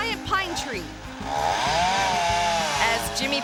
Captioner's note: chainsaw buzzing